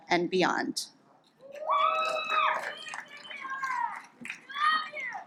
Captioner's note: audience applauds